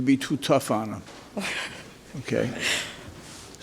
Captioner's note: chuckles